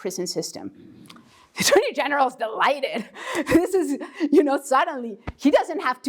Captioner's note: laugh